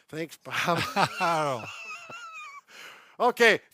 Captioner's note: laughs